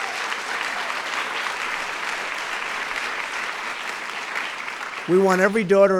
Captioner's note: applause